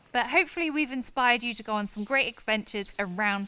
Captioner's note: none